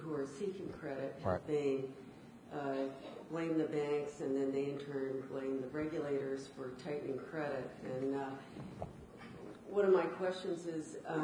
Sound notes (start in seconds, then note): none